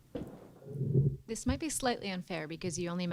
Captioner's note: voiceover